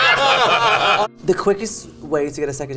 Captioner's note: group laughs